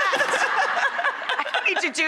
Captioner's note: laughing